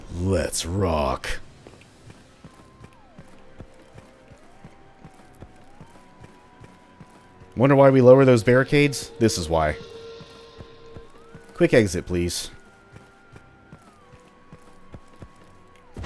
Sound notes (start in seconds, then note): 0.2 duke nukem voice; 10.0 klaxon continuing